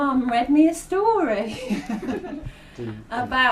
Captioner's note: laughter